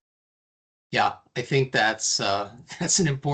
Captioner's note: chuckling